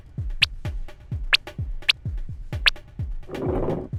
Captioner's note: cartoon eye movement sounds